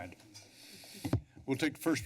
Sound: taps microphone

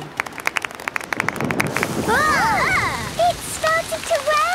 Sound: exclamations; thunder

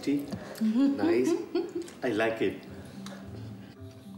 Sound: laughs

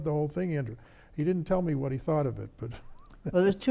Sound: laughs

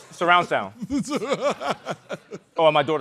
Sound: chuckling

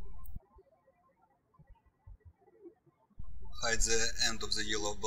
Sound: birds chirping

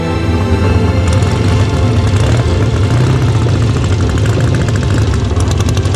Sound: motorcycle engine starting

